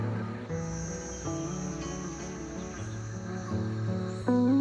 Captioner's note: crickets and cicadas